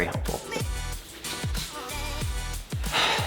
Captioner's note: sighs